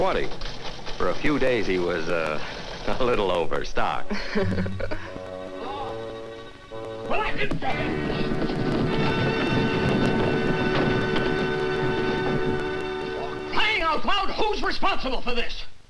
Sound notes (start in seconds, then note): 7.3 Mr. Morton yelling